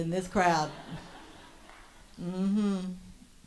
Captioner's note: audience laughs